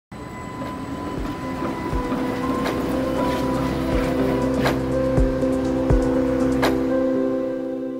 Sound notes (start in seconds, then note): 0.2 motor whirring, wheels clanking; 4.9 relaxing music